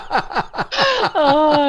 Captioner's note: laughter